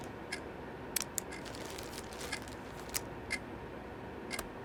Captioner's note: pen clicking